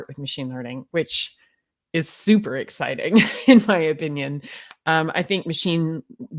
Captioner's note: laughs